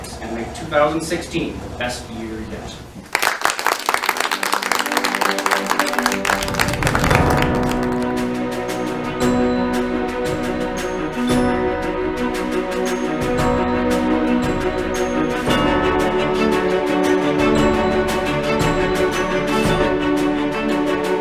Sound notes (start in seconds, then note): 3.1 audience applause; 6.7 inspiring music